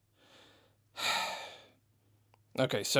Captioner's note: sigh